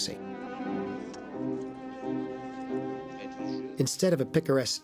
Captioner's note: murmuring Continues